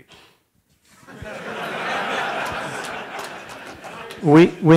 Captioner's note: laughter